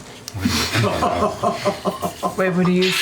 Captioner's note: laughter